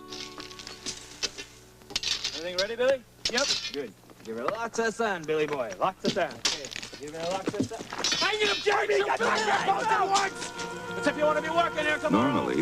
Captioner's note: men chatter, one gets mad and starts screaming at the other